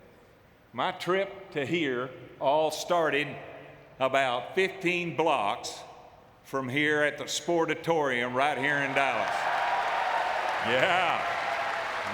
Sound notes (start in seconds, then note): 8.5 audience cheering